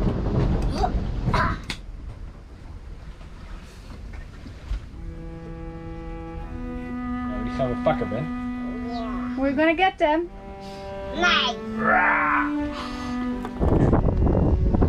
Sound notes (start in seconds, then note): 4.9 gentle music; 7.6 speaking foreign language; 11.8 groaning